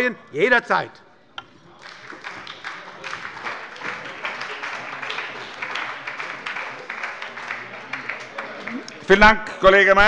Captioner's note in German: Beifall bei der SPD